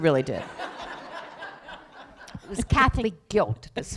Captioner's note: laughter